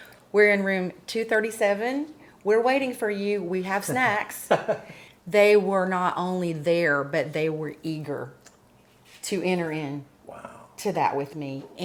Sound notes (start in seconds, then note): 5.0 laughs